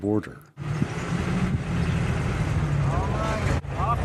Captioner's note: car engine roaring